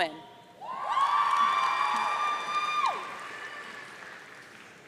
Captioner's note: audience cheering